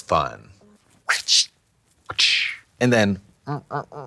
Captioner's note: Katya making trapping and severing sounds